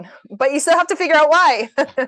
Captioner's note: laugter